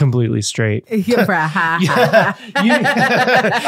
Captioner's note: laughing